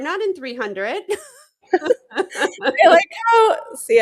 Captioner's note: laughter